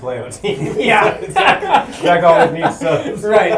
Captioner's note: laughter